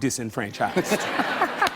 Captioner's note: laughter